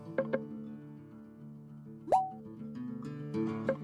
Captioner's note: messages blip